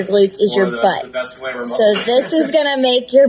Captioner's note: laughing